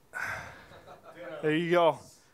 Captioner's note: soft laughs